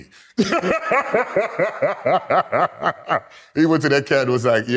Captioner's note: laughs